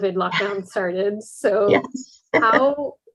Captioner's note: laughing